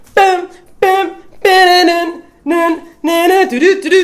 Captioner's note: she hums; she hums song